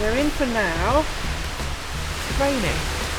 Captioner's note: rain